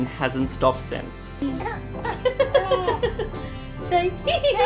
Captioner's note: giggles